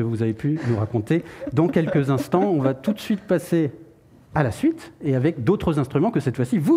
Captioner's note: laughs